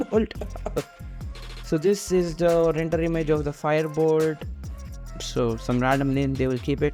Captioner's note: coughs